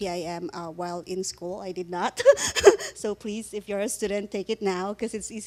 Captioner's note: laughing